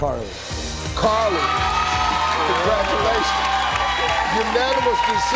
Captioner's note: audience cheering